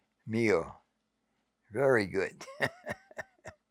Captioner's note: chuckling